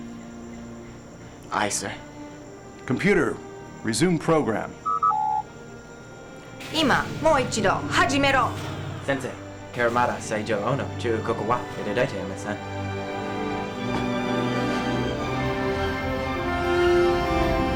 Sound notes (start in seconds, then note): 6.6 Holodeck doors closing